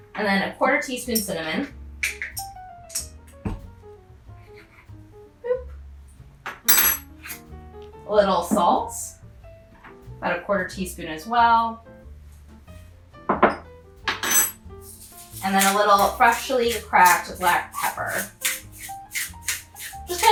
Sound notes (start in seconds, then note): 6.7 spoon clanks; 14.1 glass clanks; 18.3 pepper mill grinding